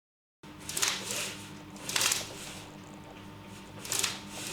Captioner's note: blinds clacking together